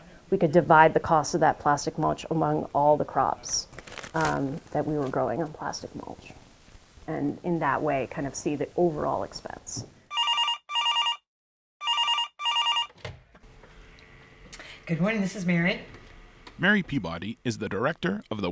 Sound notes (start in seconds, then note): 10.1 phone ringing